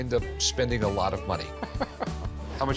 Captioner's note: Rick laughs